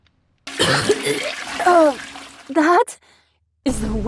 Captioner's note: vomits